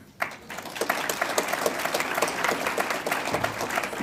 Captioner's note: audience applauds